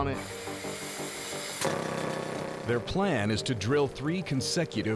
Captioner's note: drilling